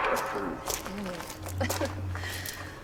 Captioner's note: Stef giggles